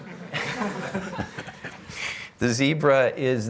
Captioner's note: laughter